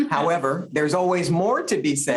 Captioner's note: chuckles